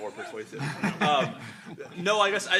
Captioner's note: laughing